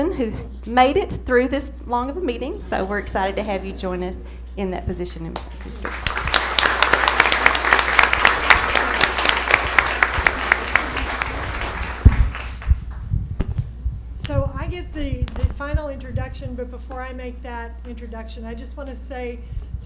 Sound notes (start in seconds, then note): 9.7 applause